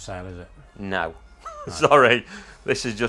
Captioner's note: laughs